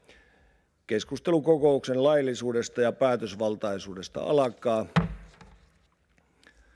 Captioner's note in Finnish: kopauttaa nuijaa